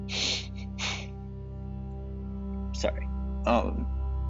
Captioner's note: deep sigh